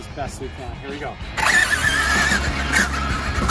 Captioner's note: tires whirring; upbeat music